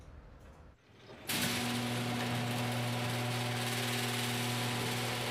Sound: garage motor whirring

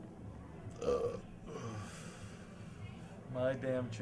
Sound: belches

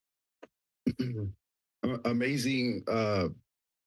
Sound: throat clearing

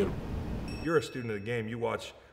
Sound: ding

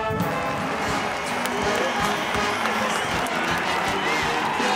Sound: crowd cheering

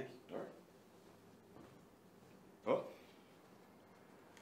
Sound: Gerald grunts

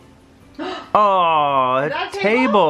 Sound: gasping

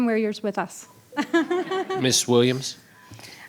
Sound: laughs

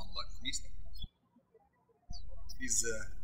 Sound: birds chirping

